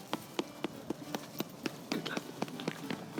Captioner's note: patting sound